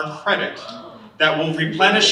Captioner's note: student gasping